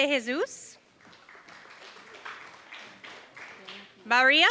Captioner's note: applause